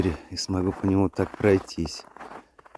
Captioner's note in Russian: снег скрипит